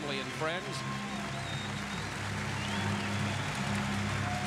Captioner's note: applause